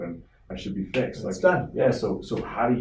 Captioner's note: finger snap